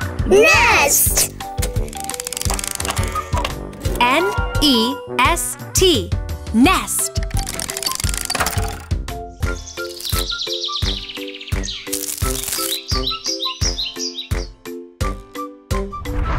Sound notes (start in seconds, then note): 9.2 birds chirping; 13.6 upbeat music